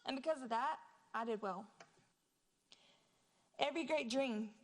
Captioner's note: none